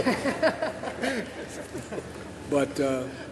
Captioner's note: laughter